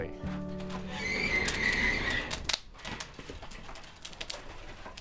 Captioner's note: kiln door squeaking